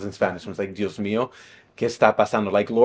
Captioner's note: speaking in a foreign language